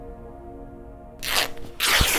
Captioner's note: fabric ripping